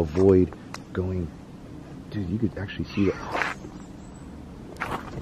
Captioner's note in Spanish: sonido misterioso